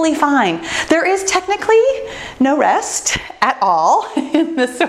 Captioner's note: laughs